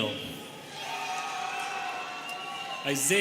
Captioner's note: students cheering